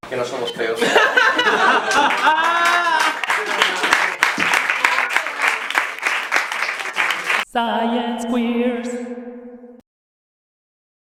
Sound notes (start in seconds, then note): 0.8 laughs; 3.7 applause